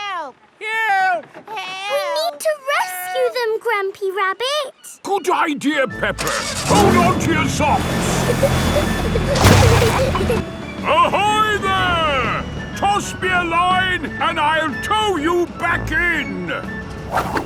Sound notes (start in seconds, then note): 8.7 peppa and george giggling